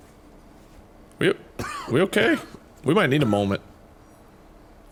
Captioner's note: coughs